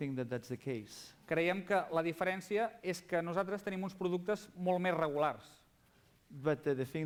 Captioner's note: non-english speech